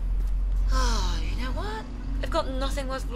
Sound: sighs

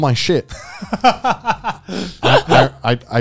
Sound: chuckling

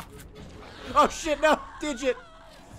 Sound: laughs

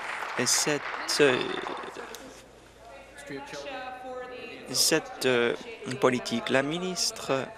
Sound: applause

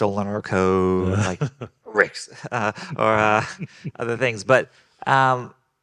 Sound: group laughing; coughing

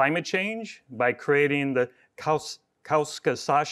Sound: speaks in foreign language

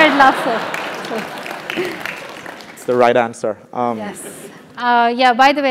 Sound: applause

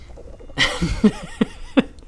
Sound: knowing laugh

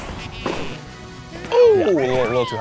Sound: none

